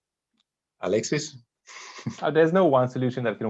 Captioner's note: laughing